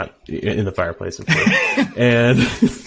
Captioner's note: laughing